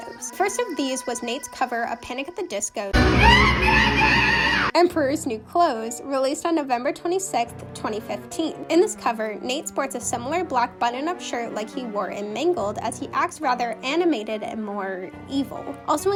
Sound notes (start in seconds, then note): 2.9 brendon’s muppet scream